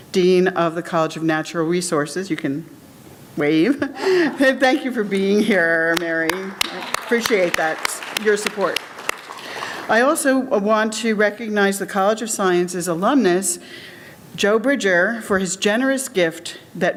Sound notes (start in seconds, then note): 7.9 audience applauds